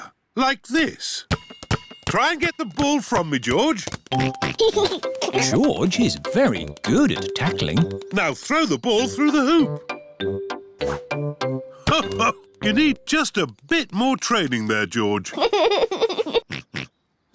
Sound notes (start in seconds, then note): 4.1 oinks and giggles; 15.2 giggles and oinks